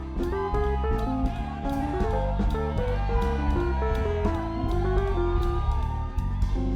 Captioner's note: students cheering and screaming